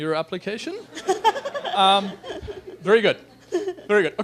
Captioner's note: laughter